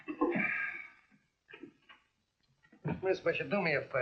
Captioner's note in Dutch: gekletter; zuchtend